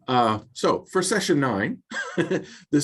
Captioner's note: laughs